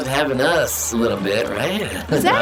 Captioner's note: laughs